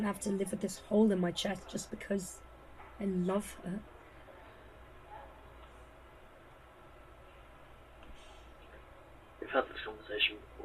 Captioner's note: a pause